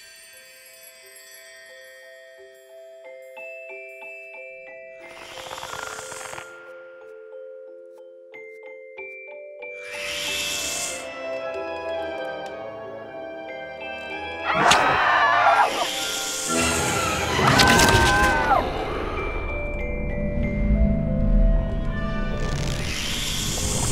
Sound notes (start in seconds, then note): 0.0 tinkling instrumental music; 15.0 growling; 16.9 dramatic instrumental music; 18.8 tinkling instrumental music